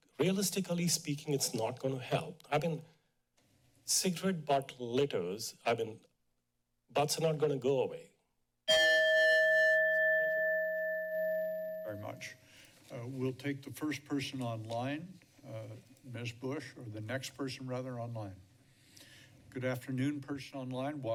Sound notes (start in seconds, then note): 8.6 chime